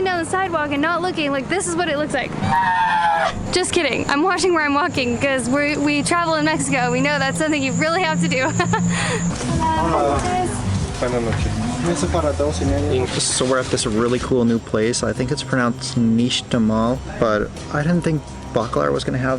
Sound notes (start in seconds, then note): 8.4 laughter